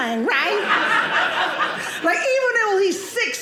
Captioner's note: audience laughing